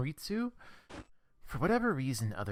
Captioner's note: static